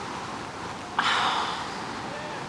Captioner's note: sighing